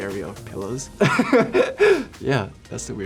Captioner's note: laughs